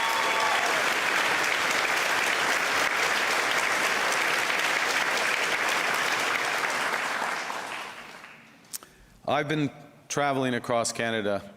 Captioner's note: cheers and Applause